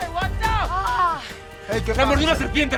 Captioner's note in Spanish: Quejidos